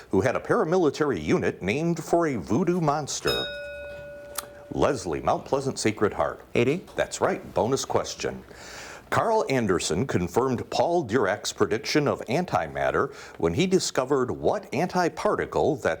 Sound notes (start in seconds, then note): 3.2 bell rings